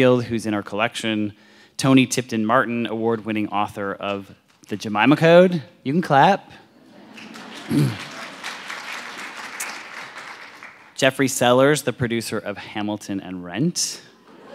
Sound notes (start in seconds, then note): 7.0 audience applauds